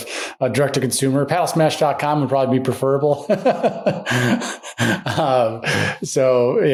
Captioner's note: laughs